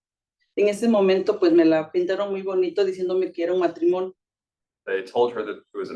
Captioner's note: speaking Spanish